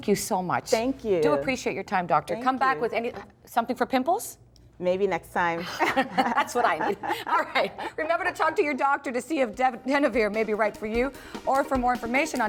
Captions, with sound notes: THANK YOU SO MUCH. THANK YOU. DO APPRECIATE YOUR TIME DOCTOR. THANK YOU. COME BACK WITH SOMETHING FOR PIMPLES? MAYBE NEXT TIME. (LAUGHTER) THAT'S WHAT I NEED. ALRIGHT REMEMBER TO TALK TO YOUR DOCTOR TO SEE IF DENAVIRE MAY BE RIGHT FOR YOU OR FOR MORE INFORMATION